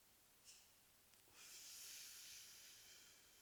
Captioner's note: Terri inhales deeply